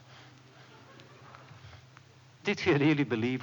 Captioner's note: laughter